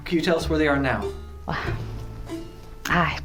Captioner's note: sigh